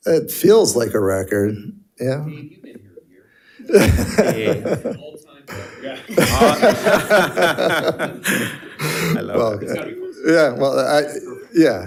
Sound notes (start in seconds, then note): 3.7 laughing; 5.5 board laughing